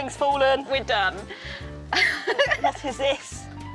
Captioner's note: laughs